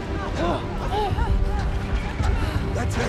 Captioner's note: gasping